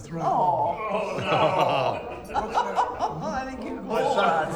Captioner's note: laughs; groaning